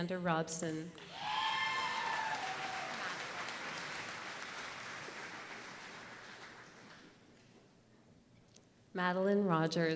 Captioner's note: applause